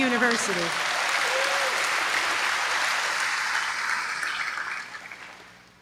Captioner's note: applause